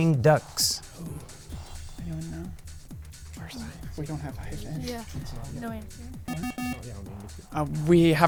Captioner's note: wispering